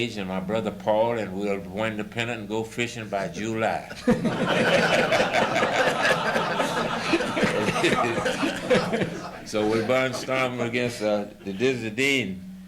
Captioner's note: laughter